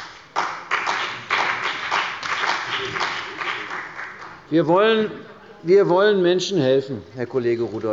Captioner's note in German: Beifall bei der CDU und dem BÜNDNIS 90/DIE GRÜNEN